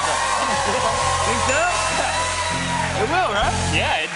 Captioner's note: cheers and applause